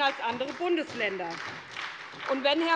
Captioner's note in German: Beifall bei der SPD